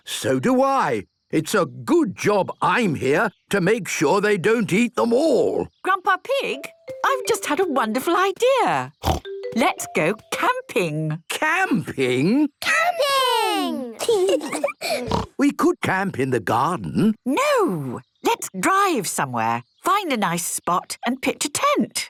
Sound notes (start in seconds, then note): 9.0 snort